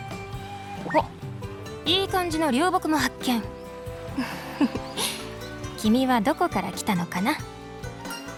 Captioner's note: laughs